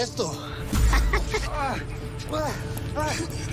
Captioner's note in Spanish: Quejidos